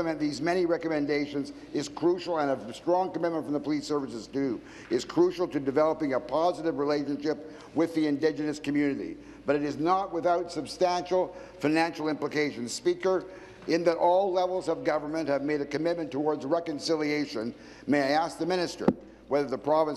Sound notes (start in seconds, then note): none